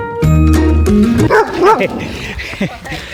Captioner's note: laughs Nervously; dog Barking Angrily